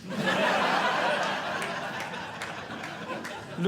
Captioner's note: audience Laughing